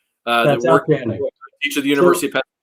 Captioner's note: murmuring